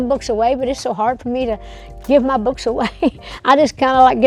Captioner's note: chuckles